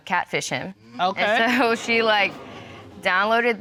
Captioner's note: audience exclaims